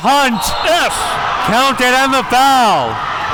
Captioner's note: whistle blowing